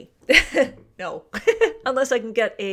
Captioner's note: laughs